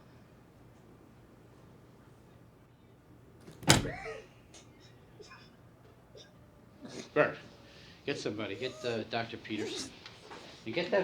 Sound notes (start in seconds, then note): 3.4 door slamming